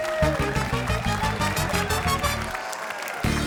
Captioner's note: cheering, applause